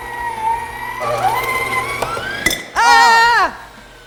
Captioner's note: whirring